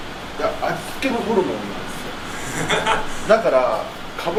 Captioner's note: laughs